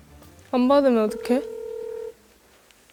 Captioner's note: ring ring